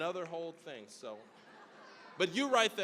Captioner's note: audience laughing